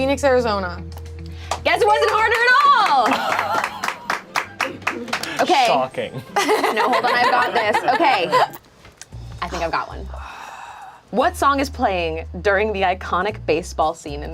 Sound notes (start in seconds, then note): 3.4 group applauds; 6.3 laughs